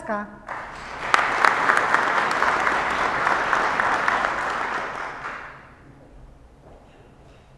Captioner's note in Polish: oklaski